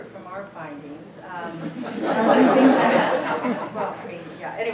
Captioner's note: laughter